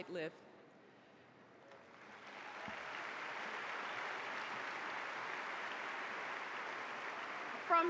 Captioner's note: applause